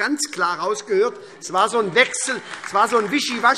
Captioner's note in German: Beifall SPD